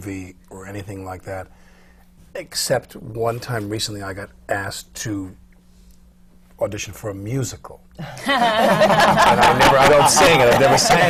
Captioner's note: laughter